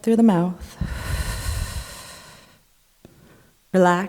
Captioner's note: exhaling